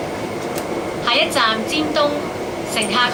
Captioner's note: Cantonese